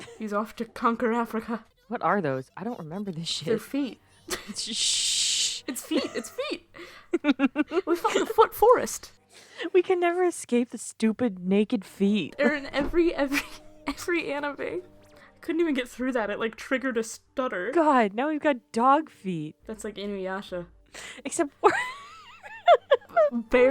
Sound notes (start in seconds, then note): 4.3 aggressively shushing; 5.6 laughing; 21.6 cut off by laughing